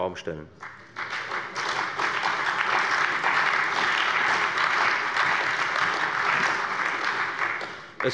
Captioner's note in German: Beifall bei der FDP, der CDU, der SPD und dem BÜNDNIS 90/DIE GRÜNEN